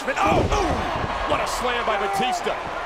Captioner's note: commentators exclaim